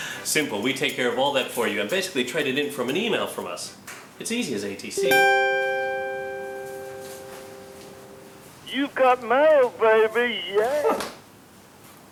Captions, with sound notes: Simple. We take care of all that for you and basically trade it in for an email from us. It's easy as ATC! *DING* "You've got mail baby...yeah!"